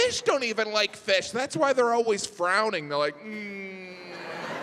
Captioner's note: groans; audience laughs